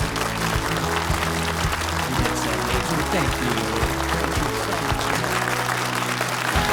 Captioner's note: audience clap; bright music